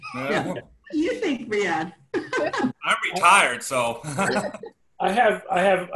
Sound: laughter

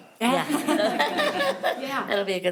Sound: people laughing

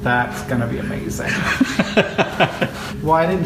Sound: laughing

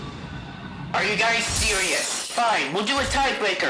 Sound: whoosh; glass breaks

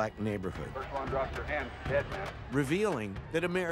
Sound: voiceover

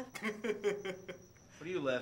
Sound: Donnie laughing

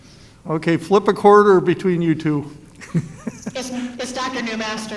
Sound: laughs

